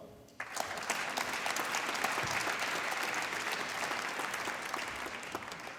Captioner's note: applause